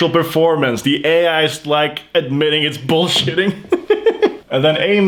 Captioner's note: laughs